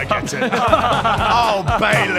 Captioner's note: fake laugh